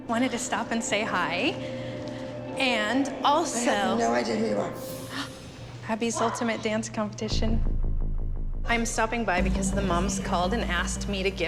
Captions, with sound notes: Wanted to stop and say hi. And also... I have no idea who you are. (gasps) Abby's Ultimate Dance Competition. I'm stopping by because the moms called and asked me to give them